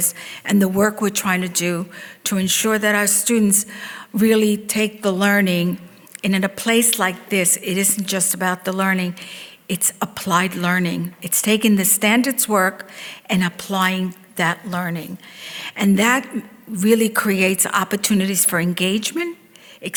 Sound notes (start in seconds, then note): none